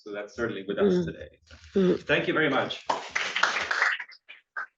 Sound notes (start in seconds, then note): 2.8 applause